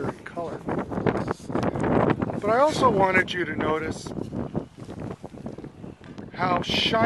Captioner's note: wind blowing